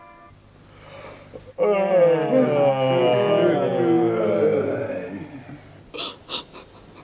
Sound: all yawn long

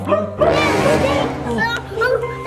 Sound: rainbow ghosts growling

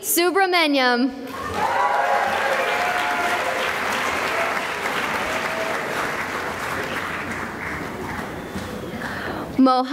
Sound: cheering and applause

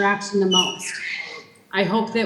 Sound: child shrieking

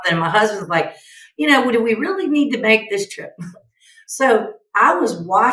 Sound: chuckles

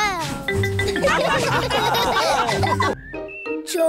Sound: laughter

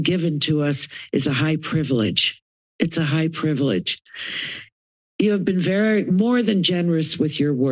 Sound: inhales; inhales

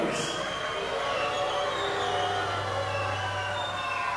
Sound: audience booing

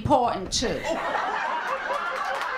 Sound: laughter, applause, and cheering

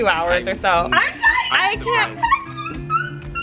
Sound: squeals

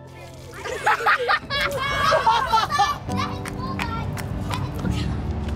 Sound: children and laughing

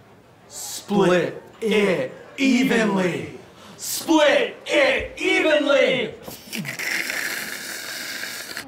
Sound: slurping

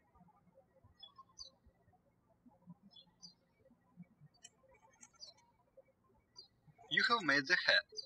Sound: birds chirping

